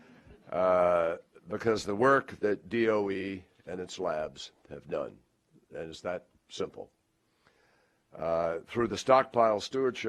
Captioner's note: laughter